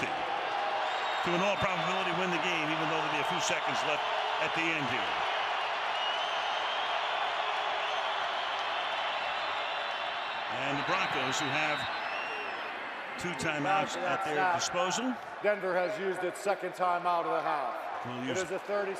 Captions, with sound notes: From 50 to, in all probability win the game, even though there'll be a few seconds left at the end here. [crowd cheering] [whistle] And the Broncos, who have two timeouts at their disposal. Denver has used its second timeout of the half.